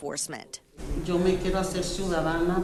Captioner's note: speaking Spanish